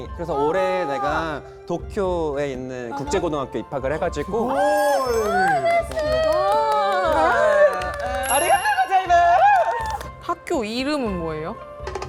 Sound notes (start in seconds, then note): 4.3 sound effect of celebrating what should be celebrated